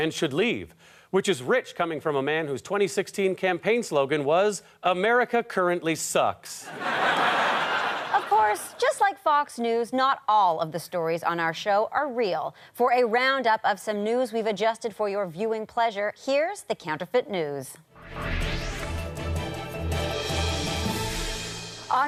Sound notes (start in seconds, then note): 6.7 audience laughter